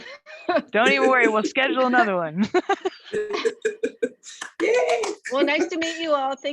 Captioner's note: laughs; claps